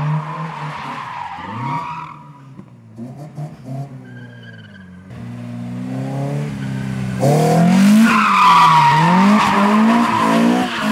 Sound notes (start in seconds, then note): 0.0 car sounds